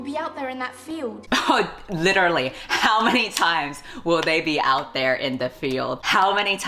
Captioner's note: laughs